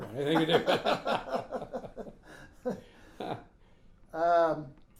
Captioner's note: laughing